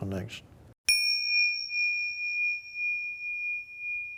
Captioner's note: chimes ring